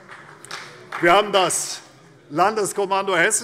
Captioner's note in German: Vereinzelter Beifall CDU